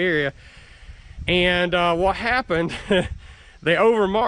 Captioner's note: laughs